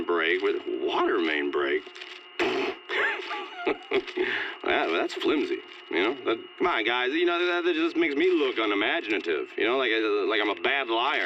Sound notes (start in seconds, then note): 2.9 snorts, laughing